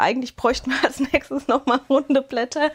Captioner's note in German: Gelächter